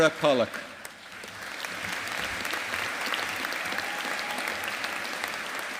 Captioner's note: audience applauding